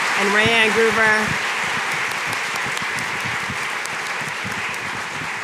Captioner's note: audience applauding